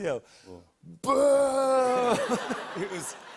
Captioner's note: laughter